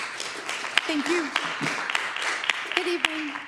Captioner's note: applause